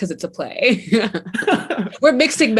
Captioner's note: laughing